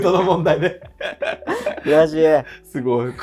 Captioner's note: laughing